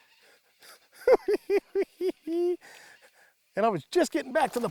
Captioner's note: cackles